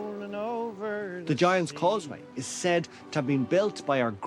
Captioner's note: voice-over